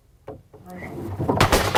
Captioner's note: loud smash